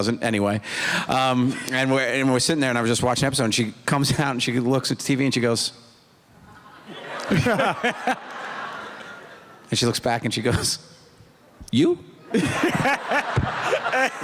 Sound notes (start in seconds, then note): 6.4 laughter